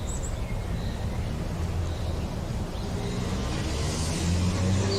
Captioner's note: traffic rumbling